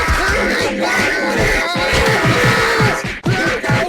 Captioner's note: Virus Bots Yelling at him, Beating up Jaden for making them lose